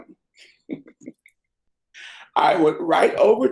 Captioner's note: laughs